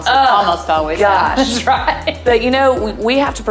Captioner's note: laughing